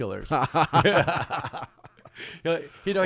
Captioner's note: laughing